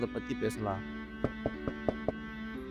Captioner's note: door knocks